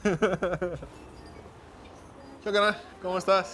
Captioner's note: ríe